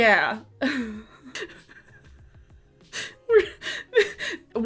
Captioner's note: laughs